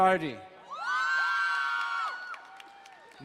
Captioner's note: crowd cheering and applauding